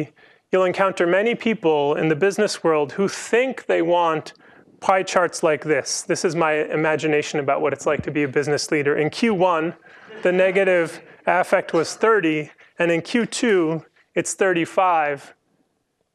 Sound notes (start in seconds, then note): 9.8 laughter